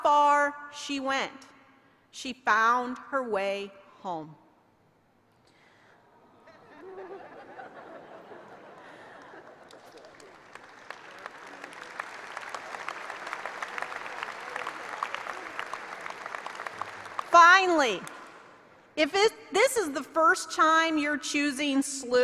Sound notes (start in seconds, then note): 6.3 laughter; 8.7 applause